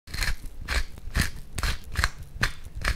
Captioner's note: scraping Sound